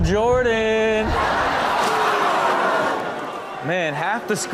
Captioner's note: audience laughs